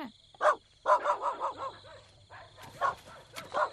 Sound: dog barks

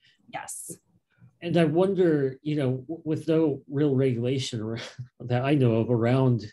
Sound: chuckles

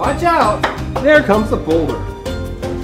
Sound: rock hits floor

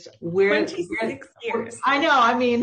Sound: laughs

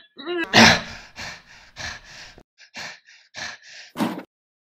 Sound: grunting; panting

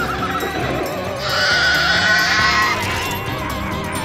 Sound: horse neighing; screaming

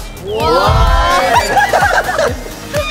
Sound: all laughing

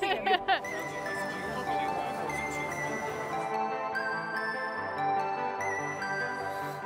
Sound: laughs; mellow electronic music; vendor faintly speaking

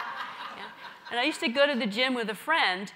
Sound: laugh

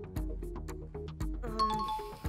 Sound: bell ringing

